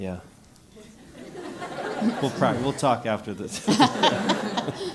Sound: laugh

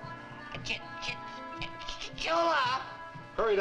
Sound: stammers

